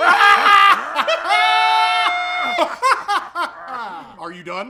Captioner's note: combination of weird laughter continues; weird laughter